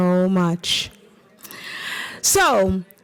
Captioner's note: chatter